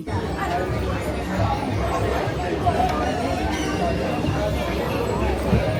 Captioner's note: crowd chattering indistinctly